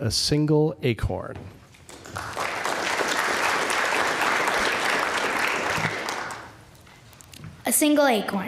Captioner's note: applause